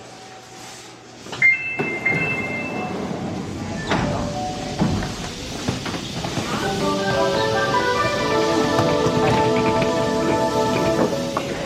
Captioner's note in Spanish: sonido de apertura y cierre de las puertas del metro